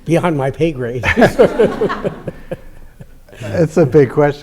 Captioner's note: laughter